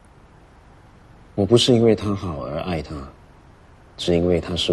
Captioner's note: in Mandarin